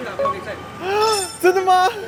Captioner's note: yelling excitedly